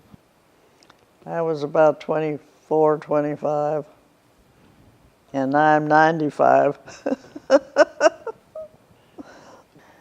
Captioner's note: laughing